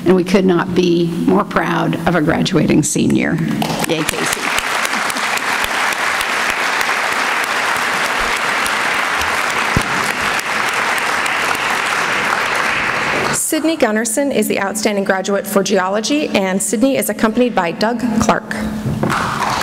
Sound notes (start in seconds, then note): 3.6 applause